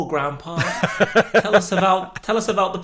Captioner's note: laughing